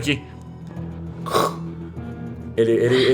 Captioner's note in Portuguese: chiado